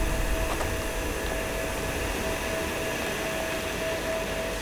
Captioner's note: machinery hums